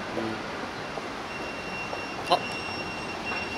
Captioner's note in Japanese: ピーーピーー：ポケベルの音